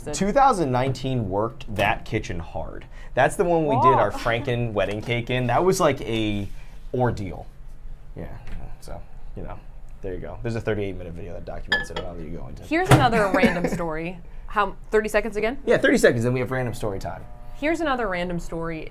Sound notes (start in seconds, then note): 12.8 microwave bangs; 13.1 laughs